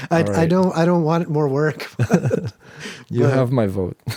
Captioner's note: both laugh